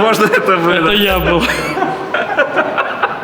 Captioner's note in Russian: смех